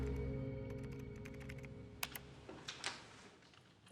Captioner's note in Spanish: ruido al teclear